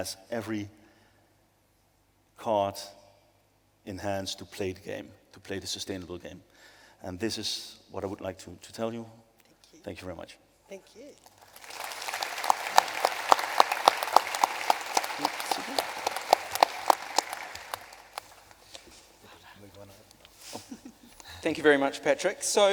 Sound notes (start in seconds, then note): 11.2 applause